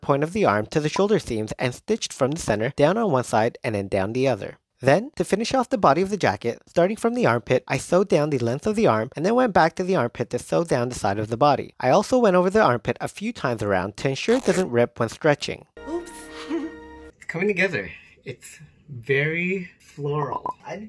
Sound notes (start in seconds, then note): 16.0 giggles